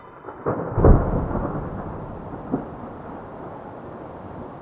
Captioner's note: thunder rumbling